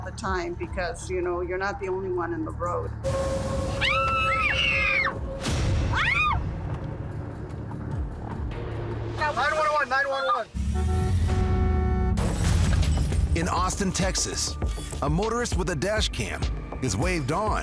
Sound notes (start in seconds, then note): 3.8 screams; 10.6 car horn honks